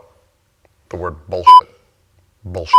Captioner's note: beep